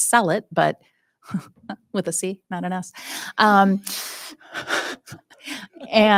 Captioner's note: chuckles